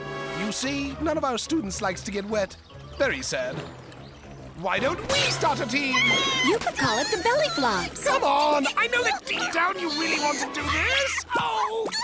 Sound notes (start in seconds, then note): 5.5 squealing